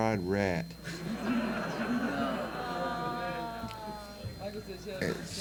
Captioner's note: audience laughs